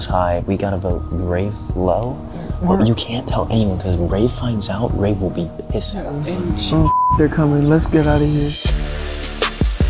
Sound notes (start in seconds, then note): 6.4 beep; 9.7 lively hip hop music